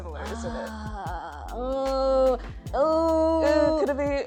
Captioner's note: ooohs